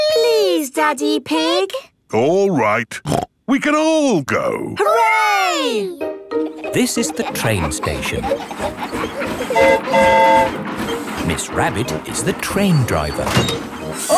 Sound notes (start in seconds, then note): 9.4 train whistle toots